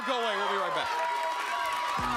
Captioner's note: crowd cheering